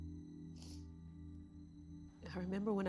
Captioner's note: Mrs. Hill sniffles